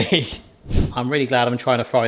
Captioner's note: laughs; screen whooshes